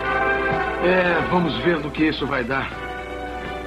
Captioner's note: sighs